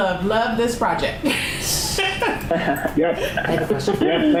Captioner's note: laughing